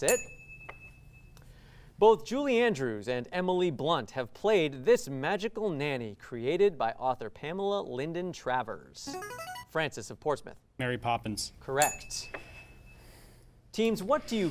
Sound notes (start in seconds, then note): 0.0 ding sound; 9.1 ring-in sound; 11.8 ding sound